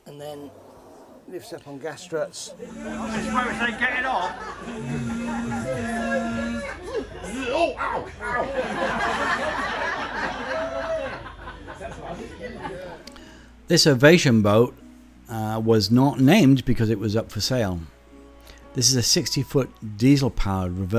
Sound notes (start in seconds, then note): 7.9 laughter